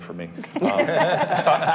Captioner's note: group laughing